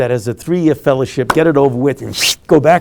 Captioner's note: whooshing